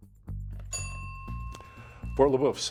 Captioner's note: bell dinging